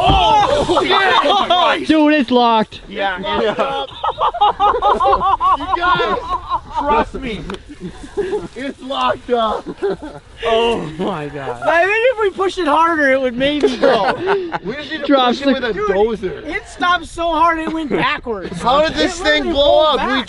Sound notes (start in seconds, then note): 3.2 laughter